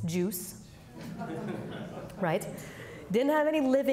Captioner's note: audience laughing